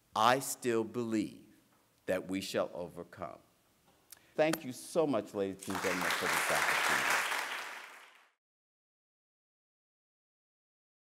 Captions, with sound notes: I still believe that we shall overcome." Thank you so much, ladies and gentlemen, for this opportunity. [APPLAUSE]